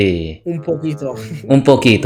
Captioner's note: Spanish